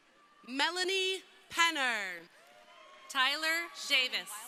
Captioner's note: crowd cheering